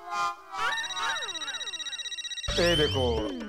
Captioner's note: cell phone ringing